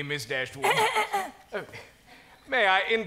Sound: Mrs. Jennings clears throat

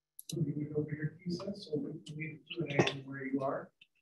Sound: murmurs

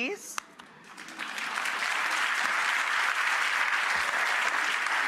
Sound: audience applauds

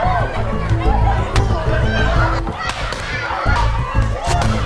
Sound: party poppers cracking

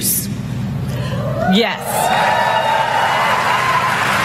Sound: applause

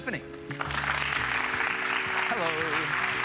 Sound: applause

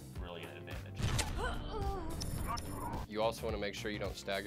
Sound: gasps

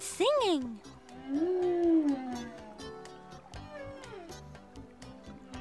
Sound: whales singing

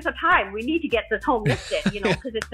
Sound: laughs

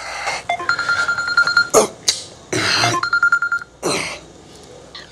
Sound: phone ringing

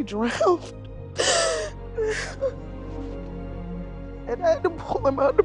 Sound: sobs

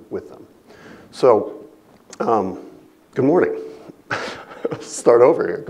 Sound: chuckles

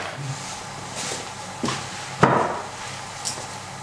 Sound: knocking sound of wood

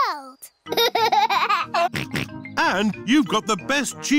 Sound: laughs and snorts

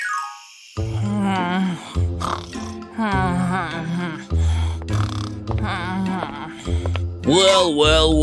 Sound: snoring

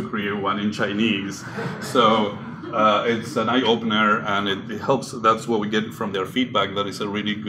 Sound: laughter

